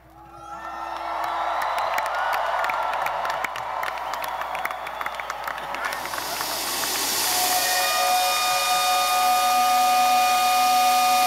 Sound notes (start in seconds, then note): 0.3 audience applauding; 7.9 whistle blowing